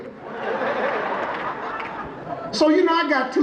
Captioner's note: audience laughing